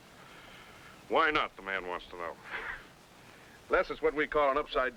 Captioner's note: laughs